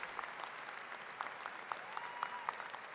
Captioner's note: applause